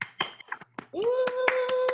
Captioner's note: clapping